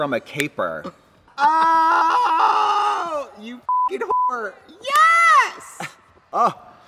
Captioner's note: beep